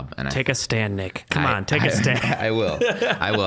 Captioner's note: laughing